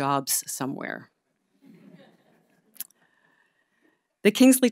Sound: audience laughing

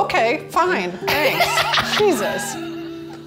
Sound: laughs

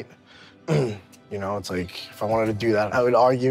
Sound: clears throat

